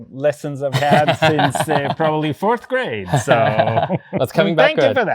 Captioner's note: laughs